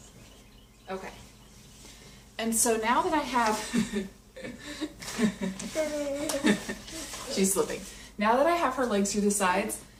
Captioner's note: laughing